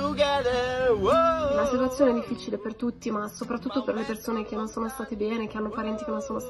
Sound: speaking foreign language

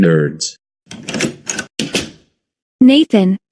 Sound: door opening

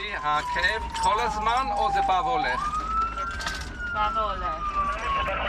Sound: medics speak foreign language

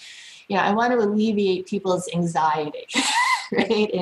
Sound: laughs

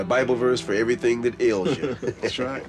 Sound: laughter

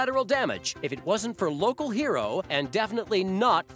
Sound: none

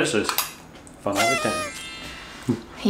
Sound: party whistle whistling; chuckles; dreamy music

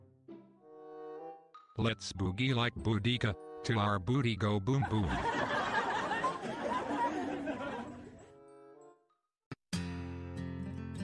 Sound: laughter by all

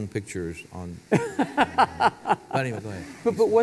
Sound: laugh

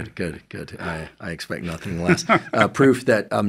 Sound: exhaling; laughing

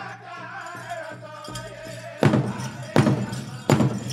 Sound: regalia ornaments jingling; drum beating intensely

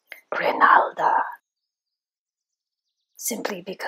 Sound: heard in whispery snake voices

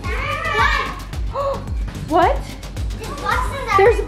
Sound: gasps

